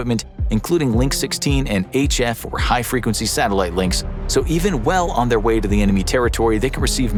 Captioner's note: high frequency